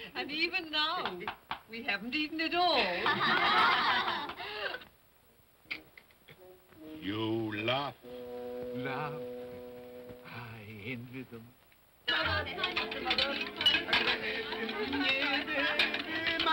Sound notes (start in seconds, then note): 3.0 children laugh; 5.6 Scrooge makes sucking sound; 12.1 indistinct chatter & dinnerware clattering